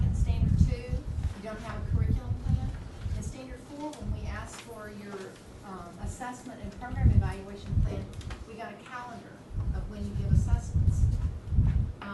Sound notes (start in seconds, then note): none